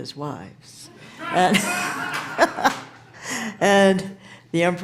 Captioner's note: audience cheering